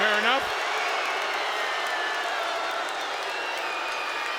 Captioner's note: crowd boos